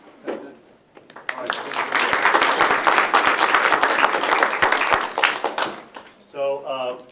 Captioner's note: applause